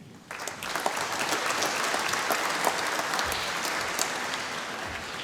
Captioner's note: applause